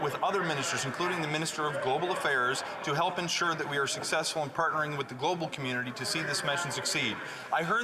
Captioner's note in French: voix de l'interprète